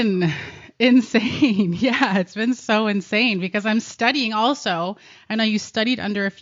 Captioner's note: giggles